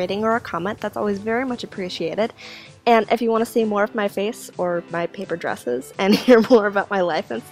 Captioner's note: laughs